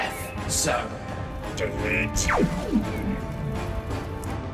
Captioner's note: laser gun sounds